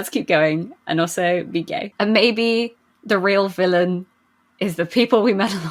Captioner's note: laughing